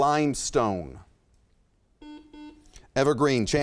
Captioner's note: buzzer chimes